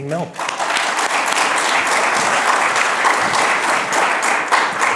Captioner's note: attendees applauding